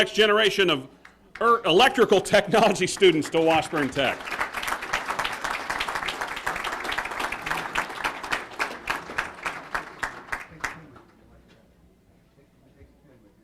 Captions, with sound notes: welcome the next generation of Electrical Technology students to Washburn Tech. >> [Applause].